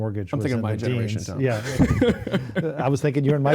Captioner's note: laughing